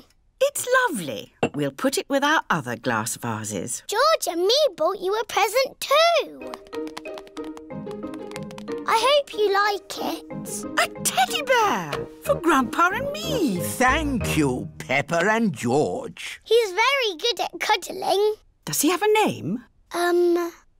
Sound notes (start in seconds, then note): none